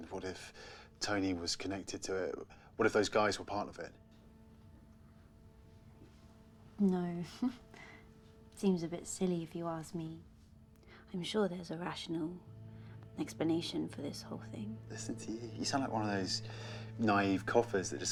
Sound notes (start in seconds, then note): 7.3 chuckles